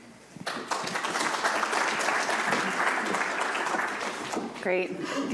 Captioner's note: audience applauds